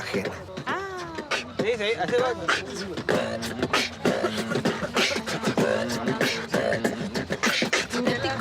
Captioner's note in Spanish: Beatbox